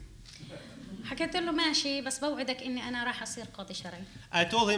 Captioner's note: speaking arabic